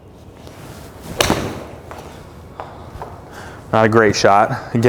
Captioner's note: ball smacking